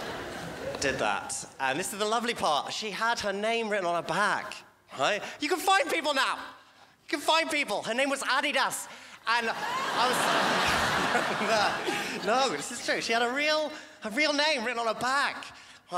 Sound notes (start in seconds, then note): 0.0 crowd laughs; 9.4 crowd laughs